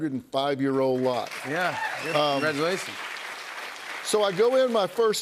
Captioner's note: cheers and applause